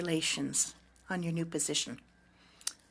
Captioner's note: speaking French